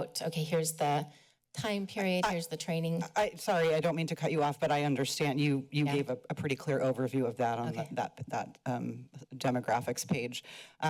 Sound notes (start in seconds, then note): none